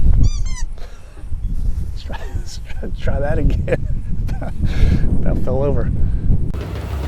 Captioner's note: laughing